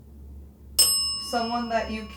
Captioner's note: bell dings